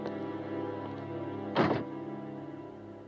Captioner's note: door closes